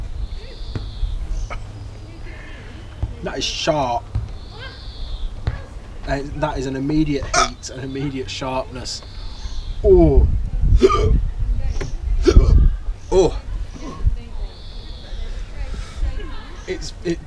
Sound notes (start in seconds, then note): 10.8 hiccups